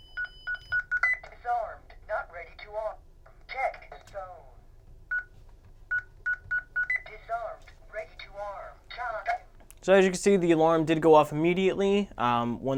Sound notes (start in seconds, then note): 0.0 beeping; 6.2 beeping